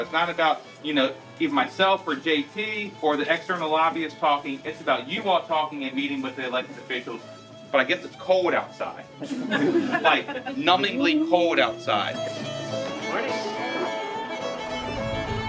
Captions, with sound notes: it's not about, you know, either myself or JT, or the external lobbyists talking, it's about you all talking and meeting with the elected officials, but I guess it's cold outside... (people laughing) Like, numbingly cold outside. (upbeat string music)